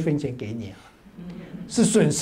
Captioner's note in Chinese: 哈哈哈